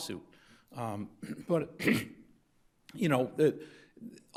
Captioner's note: clears throat